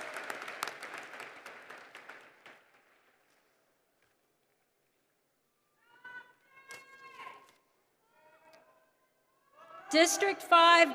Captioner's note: applause